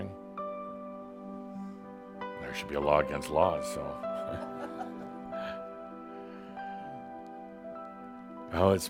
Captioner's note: a few chuckles